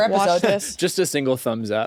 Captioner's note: laughs